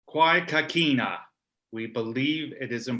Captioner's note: speaking Indigenous language